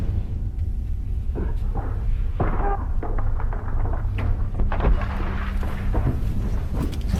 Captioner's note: screaming, crashing